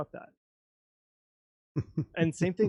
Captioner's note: chuckling